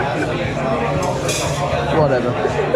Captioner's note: guests chattering